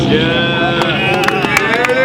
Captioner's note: clapping